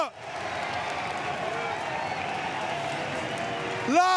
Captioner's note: applause, cheers